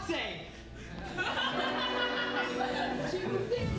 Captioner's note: audience laughing